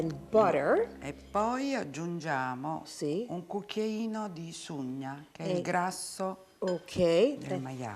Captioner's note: speaking Italian